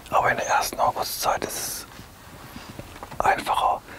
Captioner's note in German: flüstert